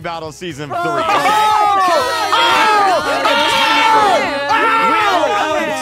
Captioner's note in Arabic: يصرخ المشاركون